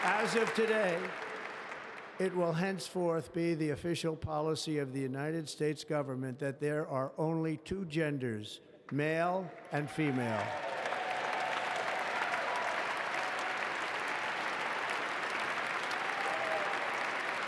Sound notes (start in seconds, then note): 14.1 applause